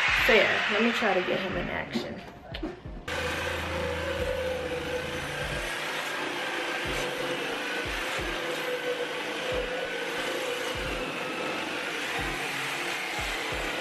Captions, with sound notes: So, yeah, let me try to get him in action. (saw whirring)